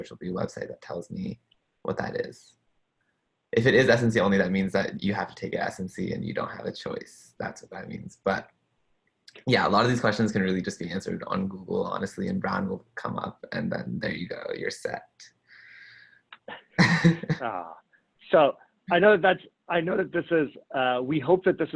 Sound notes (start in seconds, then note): 16.4 chuckles